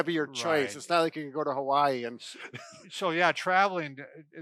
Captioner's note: laughs